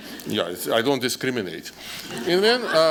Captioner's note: laughter